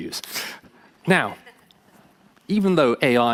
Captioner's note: laughing